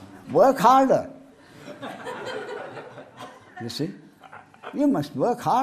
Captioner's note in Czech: smích